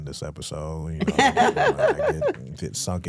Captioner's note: hosts laughing